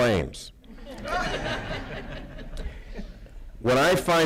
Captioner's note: laughter